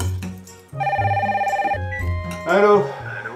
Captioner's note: phone ringing